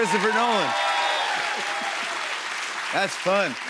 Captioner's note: cheers and applause